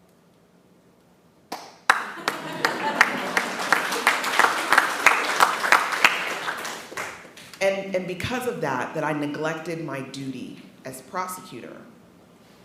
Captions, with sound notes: (attendees clapping) (attendees laughing) and because of that, that I neglected my duty as prosecutor.